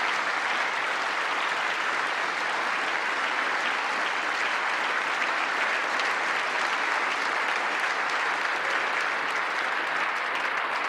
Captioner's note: applause